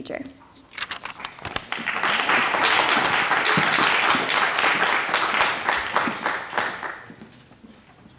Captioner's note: applause